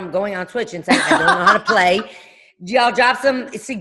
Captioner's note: laughing